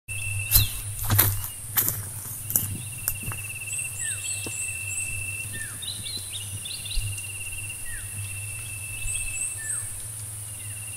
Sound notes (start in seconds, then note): 0.4 footsteps